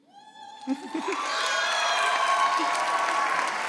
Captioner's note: audience cheering